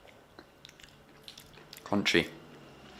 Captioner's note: chewing